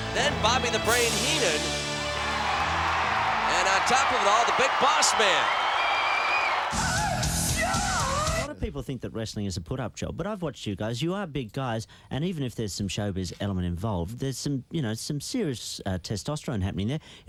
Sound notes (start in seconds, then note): 2.5 audience cheering